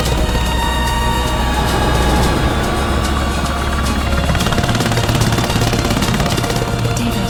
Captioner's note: rescue helicopter approaching